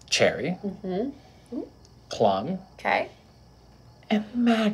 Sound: none

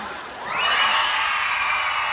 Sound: cheering

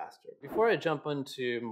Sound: air whooshes

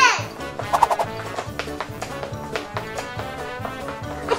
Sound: footsteps pattering

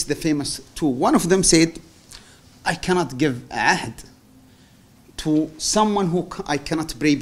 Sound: non-english

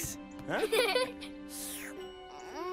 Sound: giggle

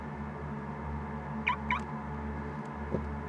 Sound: car alarm sound

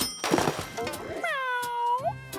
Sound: meowing

